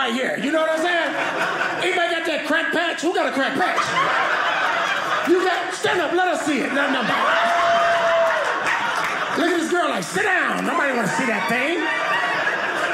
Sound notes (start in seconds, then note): 3.8 audience laughing; 6.9 audience laughing; 11.9 audience laughing